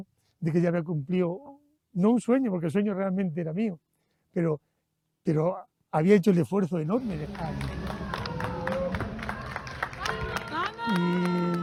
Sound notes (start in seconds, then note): 6.9 applause